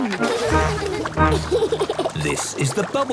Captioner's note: giggles